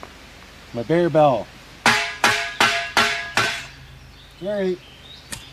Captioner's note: bang bang bang